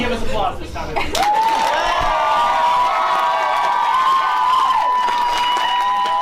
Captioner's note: applause